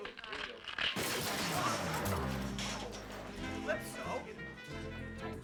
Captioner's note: rattling sound